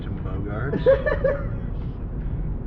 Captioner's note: teddy giggles loudly